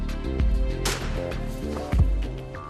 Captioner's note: bang!